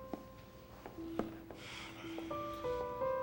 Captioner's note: sighs